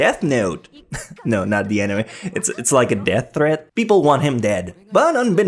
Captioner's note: chuckles